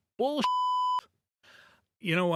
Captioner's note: beep